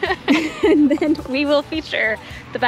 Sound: chuckling

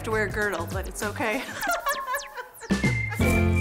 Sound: laughs; cheerful music

